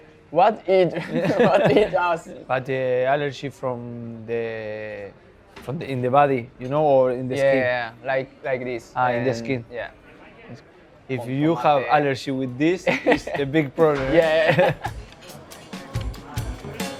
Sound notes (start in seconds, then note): 14.0 laughs